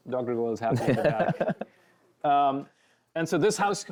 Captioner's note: laughs